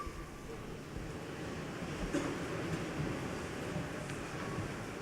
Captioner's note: seats rustling